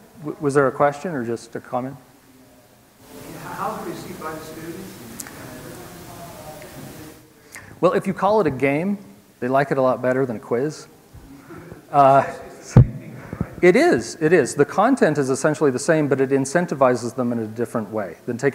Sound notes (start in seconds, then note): 11.4 laugh